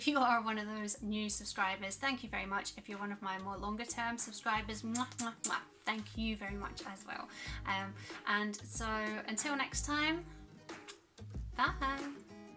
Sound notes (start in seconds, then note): 4.9 kiss; 10.7 kiss